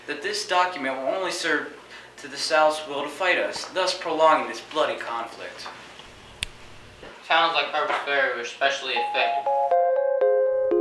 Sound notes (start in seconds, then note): 6.4 snap